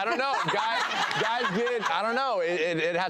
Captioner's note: laughing